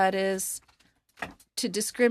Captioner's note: speaking in French